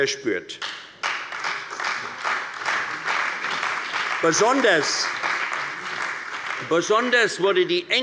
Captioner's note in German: Beifall bei der CDU und dem BÜNDNIS 90/DIE GRÜNEN